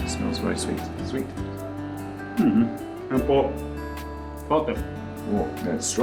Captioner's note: speaks dialect